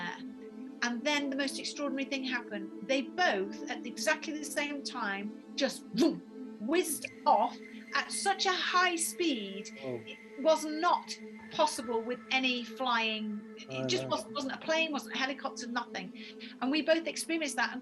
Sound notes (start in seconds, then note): 6.0 mimics swooshing